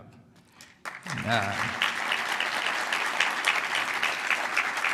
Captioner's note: applause